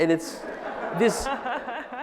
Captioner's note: audience laughs